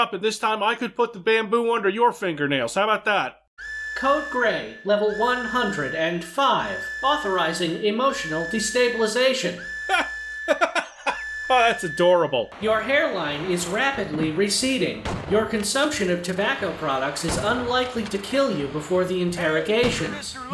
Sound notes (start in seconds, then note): 3.3 alarms blare; 9.8 laughs